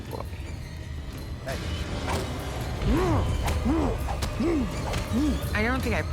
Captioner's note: grunting